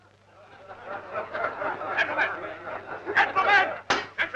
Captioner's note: crowd laughing